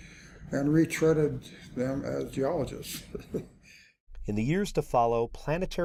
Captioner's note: chuckles